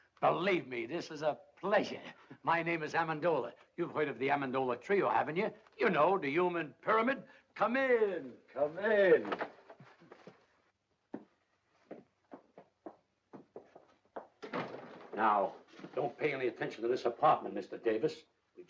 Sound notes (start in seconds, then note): 9.4 door opens; 11.1 footsteps; 14.4 door closes